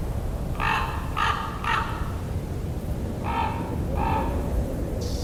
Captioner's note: desert ravens cawing; rattle snake rattling